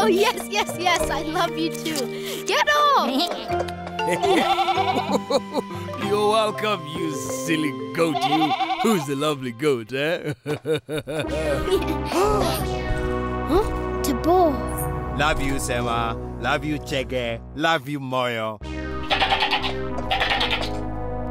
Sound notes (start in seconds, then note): 4.0 chuckling; 4.2 bleating; 10.0 chuckles; 11.4 gasping; 20.0 angry bleating